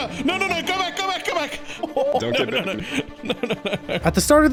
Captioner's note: laughs